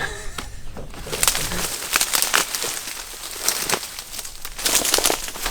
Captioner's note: grass cracking